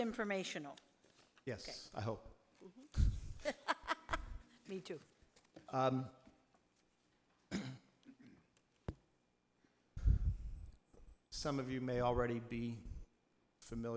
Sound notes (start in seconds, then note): 3.4 laughs